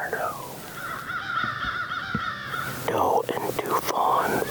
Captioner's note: crows cawing